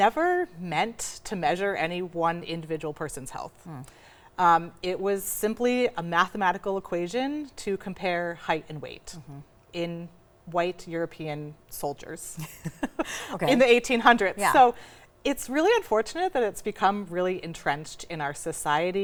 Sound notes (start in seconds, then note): 12.4 all laughing